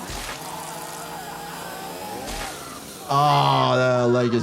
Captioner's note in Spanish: Greg gritando